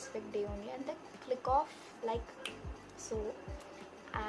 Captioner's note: snaps fingers